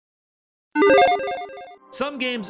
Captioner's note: logo beeps